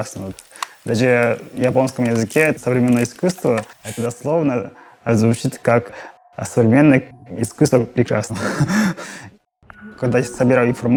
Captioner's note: laughs